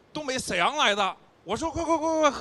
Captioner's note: northeast accent